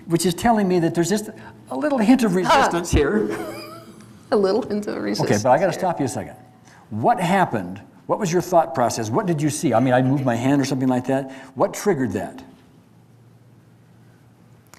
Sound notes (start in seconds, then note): 2.4 laughs; 3.3 barks